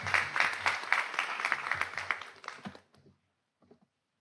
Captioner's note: audience applauds